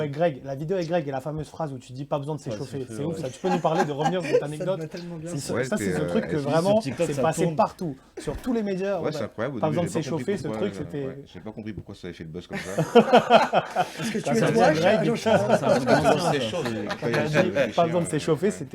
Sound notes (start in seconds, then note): 12.5 laughs